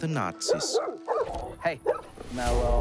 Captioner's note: dog barks